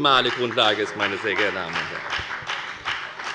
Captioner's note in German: Beifall bei der FDP